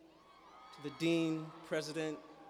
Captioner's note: cheers and applause